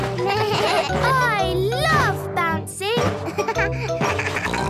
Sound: giggles; bleating; giggles, snorts

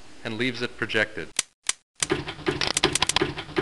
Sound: clanking

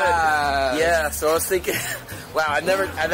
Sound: laughs

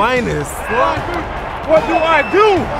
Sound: crowd chattering

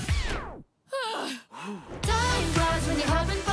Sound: sighing

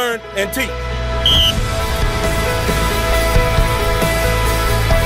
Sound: whistle blows

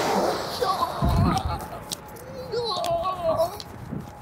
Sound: traffic roaring; groans

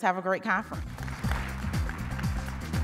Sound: audience applauding; upbeat music

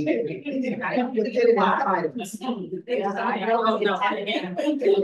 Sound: audience indistinctly chatting

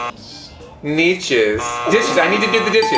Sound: buzzer buzzing

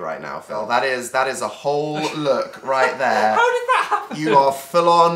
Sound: laughing

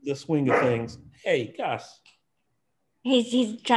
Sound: barking dog

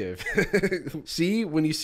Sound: chuckles

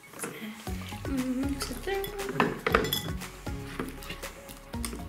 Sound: humming

